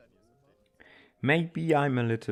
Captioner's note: inhales